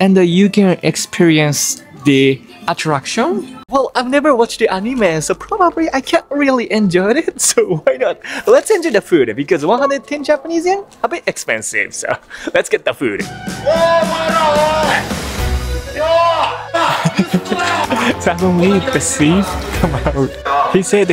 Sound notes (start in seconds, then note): 13.8 thief calls out; 16.7 chuckles